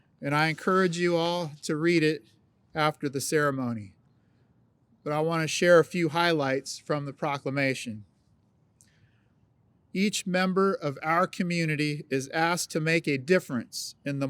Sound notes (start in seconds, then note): none